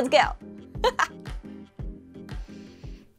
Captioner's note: laugh